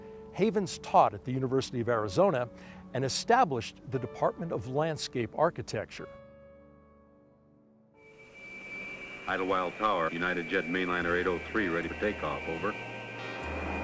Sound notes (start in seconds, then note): 8.0 airplane whirs